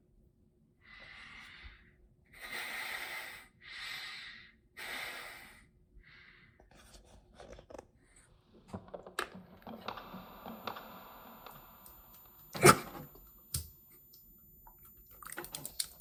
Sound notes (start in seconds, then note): 5.1 Chuck breathing deeply; 12.4 coughing and choking